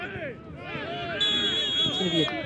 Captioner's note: whistle blows